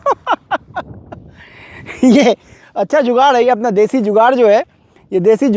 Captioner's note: laughter